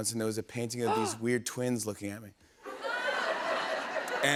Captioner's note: laughter